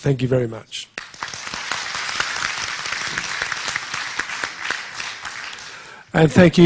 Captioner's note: applause